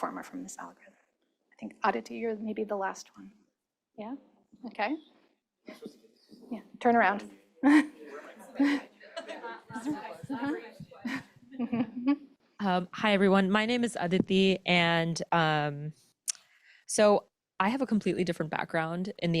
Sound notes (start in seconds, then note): 9.1 chuckling